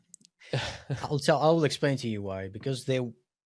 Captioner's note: laughs